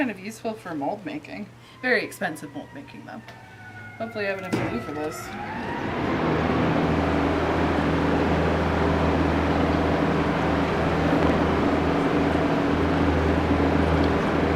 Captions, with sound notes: This seems kind of useful for moldmaking. Very expensive mold making though. (fire truck sirens outside) Hopefully I have enough glue for this.